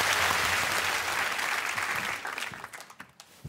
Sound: applause

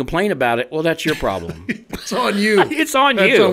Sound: co-hosts laugh; laughs

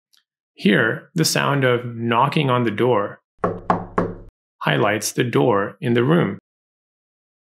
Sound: knock on door audio

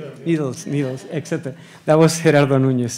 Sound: audience laughs

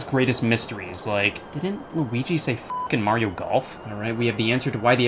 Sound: beep

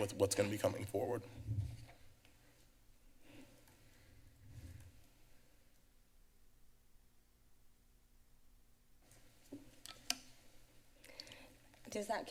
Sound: pause

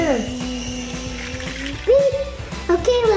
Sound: making car noises

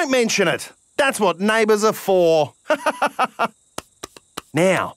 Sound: laughs

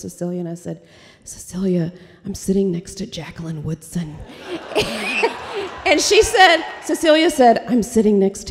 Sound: laughter

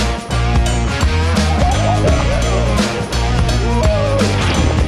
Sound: whooping

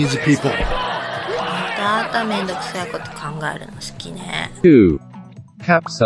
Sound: laughs

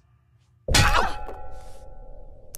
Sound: thud

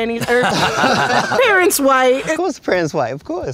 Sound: laugh

